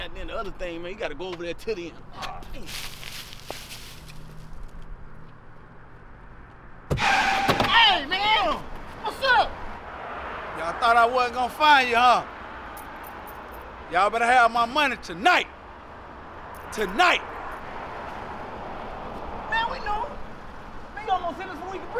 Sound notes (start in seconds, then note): 2.5 leaves crunching; 4.4 cars rumbling in distance; 6.8 tires screeching; 12.8 jewelry jingling as Rick taps watch